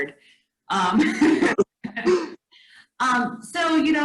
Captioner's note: laughs